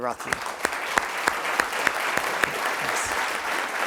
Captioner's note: applause